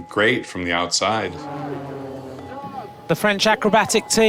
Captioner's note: jets buzzing